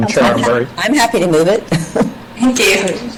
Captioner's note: chuckles